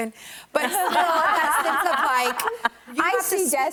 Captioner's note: laughing